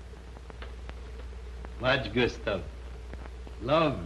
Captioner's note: Spanish spoken audio